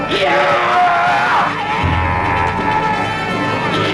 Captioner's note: Horseman roaring